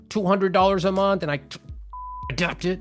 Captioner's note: beep